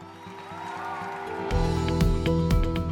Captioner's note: cheers and applause